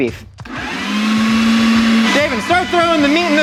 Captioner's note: grinder whirring